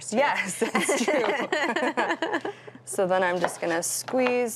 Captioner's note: laughs